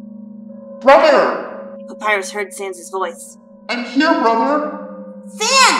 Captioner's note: dreamy echo